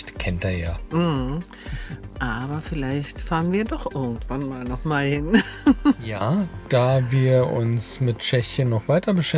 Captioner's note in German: gelächter